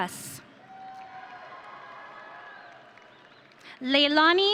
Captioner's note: audience cheering